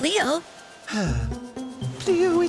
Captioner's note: sigh